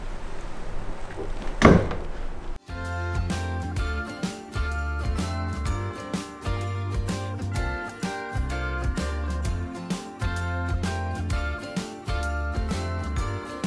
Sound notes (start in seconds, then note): 1.1 chair thudding; 2.9 happy music